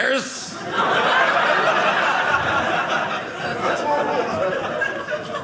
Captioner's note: audience laughing